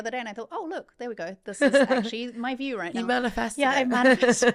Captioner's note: laughing